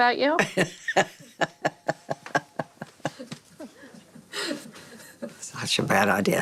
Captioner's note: laughter